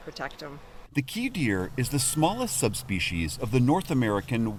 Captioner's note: voice-over